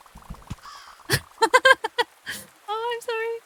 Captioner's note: laughs